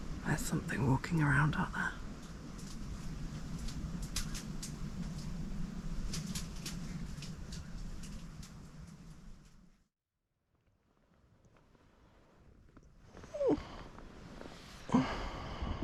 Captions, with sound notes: there's something walking around out there *cracking twigs* *squeak*